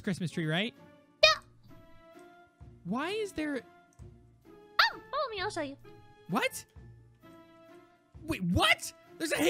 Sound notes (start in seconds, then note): 1.3 Tina chirps in affirmation